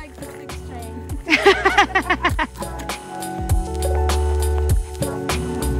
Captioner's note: both laughing